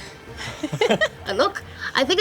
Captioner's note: laughs